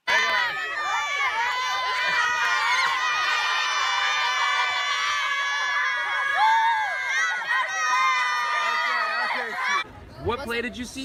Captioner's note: screaming, whooping